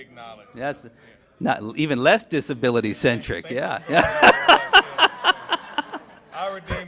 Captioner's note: laughs